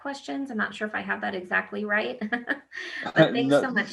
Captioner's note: laughs